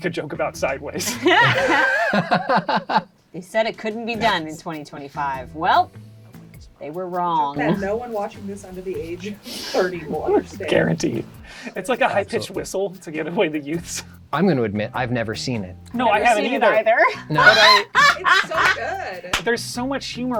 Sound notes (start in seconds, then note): 1.0 all laugh; 17.1 laughs